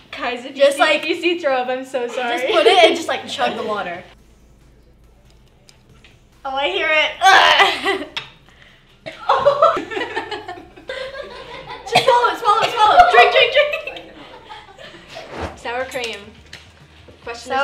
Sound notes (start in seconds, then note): 9.0 coughs; 9.0 laughs; 13.5 coughing; 15.2 laughter